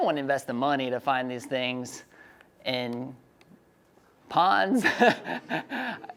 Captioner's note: laughing